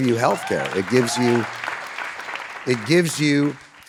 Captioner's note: audience applauding